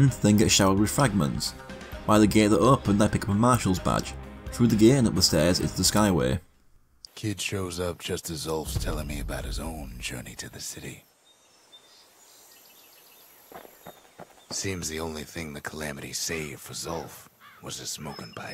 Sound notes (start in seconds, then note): 8.6 in-game audio